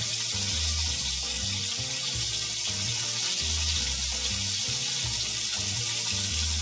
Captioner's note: bright music; chicken sizzling